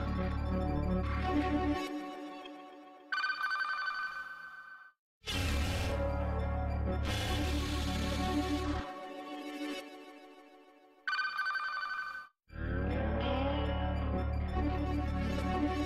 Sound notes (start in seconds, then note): 3.2 communication signals dialing; 11.1 communication signals dialing